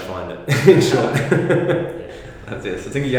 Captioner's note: laughter